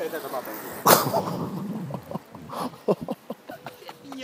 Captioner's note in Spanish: risas